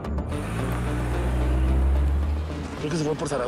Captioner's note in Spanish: Sonido del motor